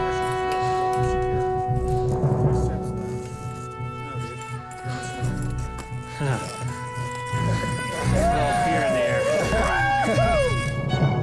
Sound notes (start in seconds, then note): 0.0 dramatic music plays; 0.0 staggered breathing; 8.0 cheering and clapping